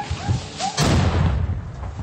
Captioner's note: crack